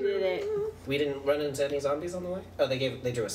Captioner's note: Ping Pong hums